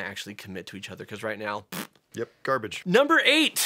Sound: blows

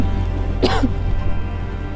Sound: coughs

